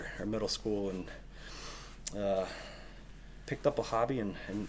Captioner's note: deeply inhales